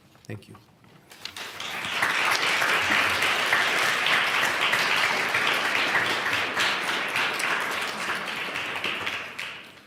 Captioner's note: applause